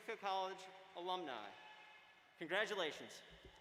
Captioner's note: applause